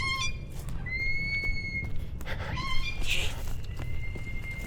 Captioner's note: Anubis cackling; chirping birds